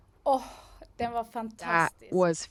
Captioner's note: non-english speech